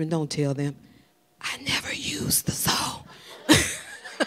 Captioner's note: whispering; everyone laughing